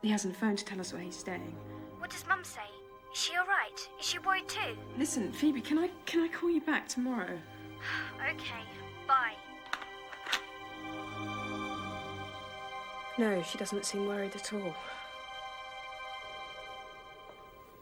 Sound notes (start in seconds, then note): 8.8 sighs; 9.9 tense music continues